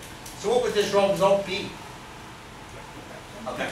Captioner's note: speaks softly